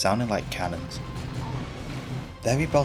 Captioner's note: heavy semi-auto gunfire